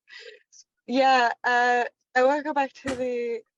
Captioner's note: Chrissy laughs